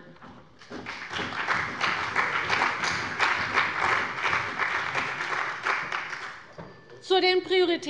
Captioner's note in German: Beifall bei der CDU und dem BÜNDNIS 90/DIE GRÜNEN